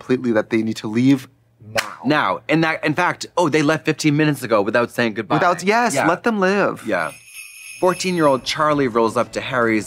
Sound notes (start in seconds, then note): 6.7 sleigh bells jingling